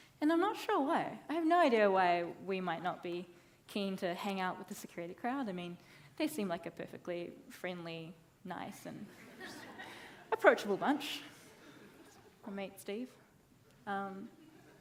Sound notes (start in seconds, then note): 9.3 audience laughing